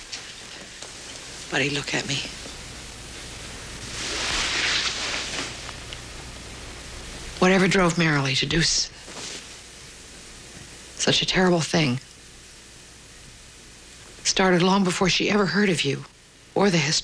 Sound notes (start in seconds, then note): none